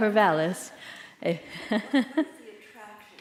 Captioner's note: laughter